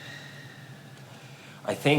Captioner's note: sighing